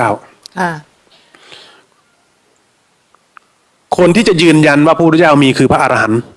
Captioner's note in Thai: เสียงสูดหายใจ